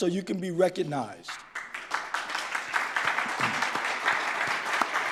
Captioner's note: audience claps